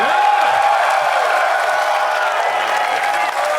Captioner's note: cheering